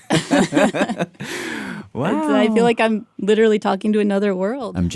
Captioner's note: laughs